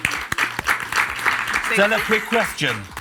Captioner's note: audience applauds